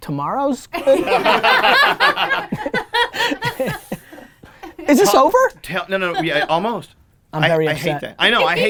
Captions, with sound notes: - Tomorrow's good. (laughing) Is this over? - Yeah, almost. - I'm very upset.